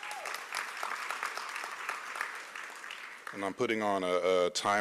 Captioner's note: applause